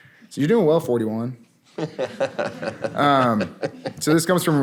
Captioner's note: laughter